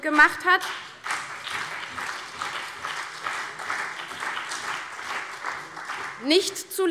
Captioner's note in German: Beifall